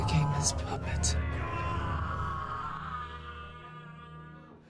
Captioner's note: Solomon groans